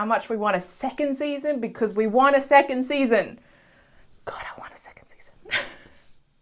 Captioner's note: whispers: God, I want a second season